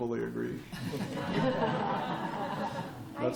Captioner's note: laughter